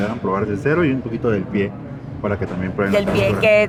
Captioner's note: speak in Spanish